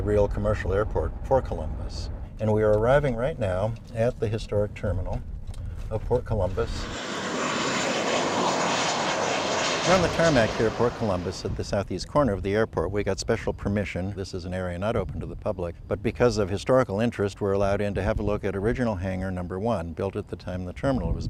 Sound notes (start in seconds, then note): 7.2 airplane taking off